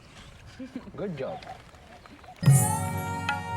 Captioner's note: 咯咯笑; chuckles; ，印度口音; indian Accent